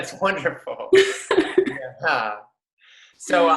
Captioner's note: both laughs